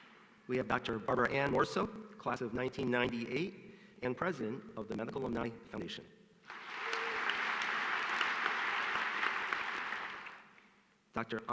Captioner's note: applause